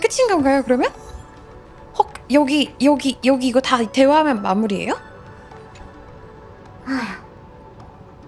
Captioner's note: gasp